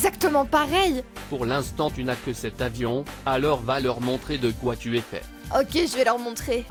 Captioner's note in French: voix robotique